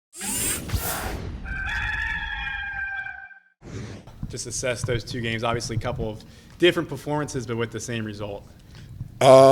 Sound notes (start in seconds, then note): 0.2 electronic swoosh; 1.4 rooster crowing